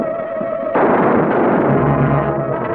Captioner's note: suspenseful music; pistol firing; suspenseful music